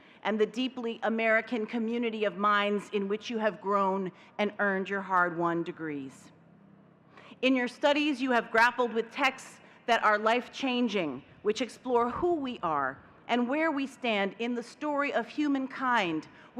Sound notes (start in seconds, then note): none